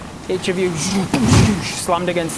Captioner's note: boosch